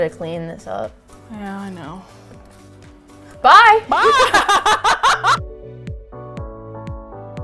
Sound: both laugh

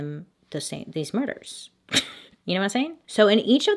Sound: slight laugh

